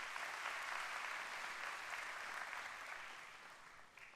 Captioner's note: applause